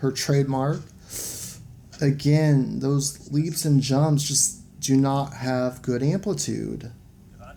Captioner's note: sharp inhale of disapproval